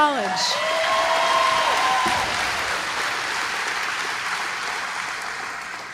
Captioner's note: applause